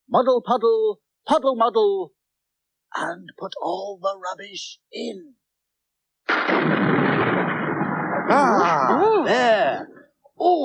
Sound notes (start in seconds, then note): 2.6 whispers; 6.3 sound Of Thunder Clap